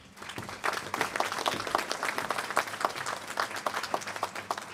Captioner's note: applause